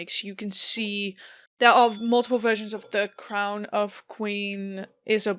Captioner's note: bell dings. Grandfather clock starts ticking